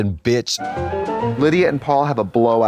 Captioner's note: bright chime